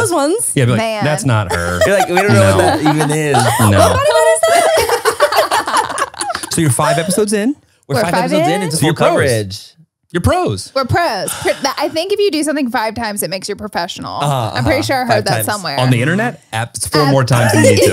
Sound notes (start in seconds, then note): 4.8 everyone laughs